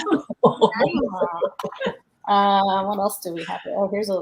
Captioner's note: joyous laughter